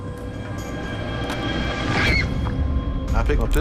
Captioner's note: screams